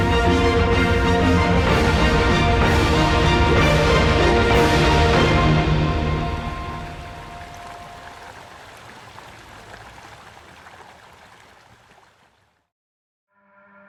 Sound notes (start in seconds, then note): 7.4 water trickling